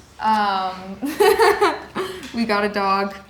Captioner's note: laughing